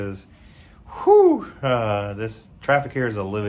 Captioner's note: heavy exhale